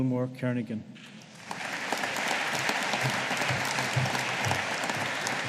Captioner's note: audience applauding